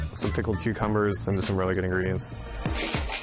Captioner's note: none